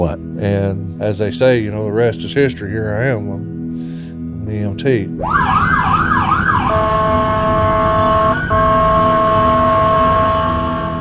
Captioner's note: sirens